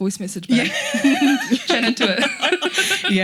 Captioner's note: laughing